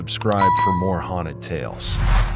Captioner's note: swoosh